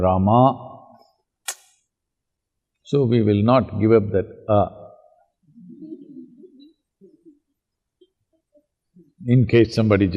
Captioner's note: laughter